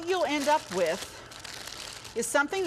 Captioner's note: bag crinkling